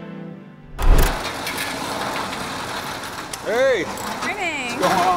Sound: garage door clanking

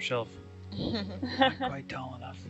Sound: laughing

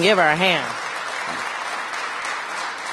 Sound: applause

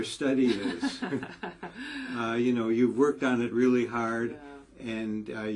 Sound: laugh

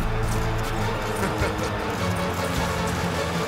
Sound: chuckling

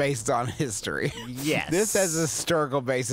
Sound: laughing

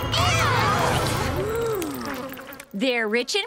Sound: gasping

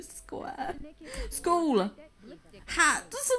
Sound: pained whining

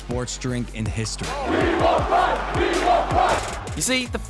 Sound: chants

